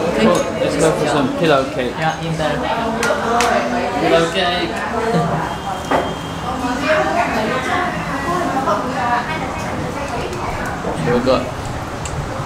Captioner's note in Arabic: الثرثرة الخلفية